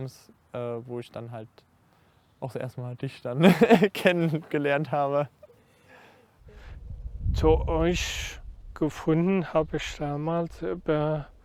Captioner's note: laughter